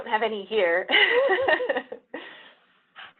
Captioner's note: laughs